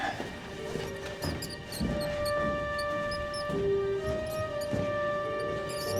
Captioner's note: curious music; rat squeaking